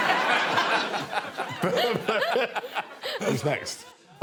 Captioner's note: all laughing